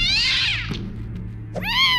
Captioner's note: pained yelp; angry meow